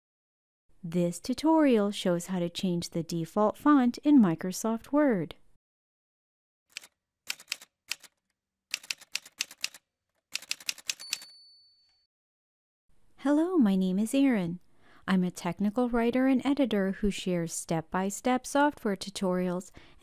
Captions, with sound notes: This tutorial shows how to change the default font in Microsoft Word. [Typewriter sounds] Hello, my name is Erin. I’m a technical writer and editor who shares step-by-step software tutorials